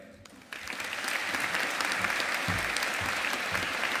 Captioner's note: audience applauding